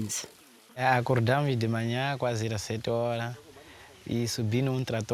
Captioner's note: speaking Portuguese